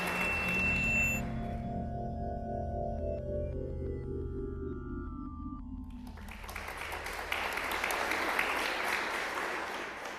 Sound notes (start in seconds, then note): 0.0 drone-like music; 5.9 applause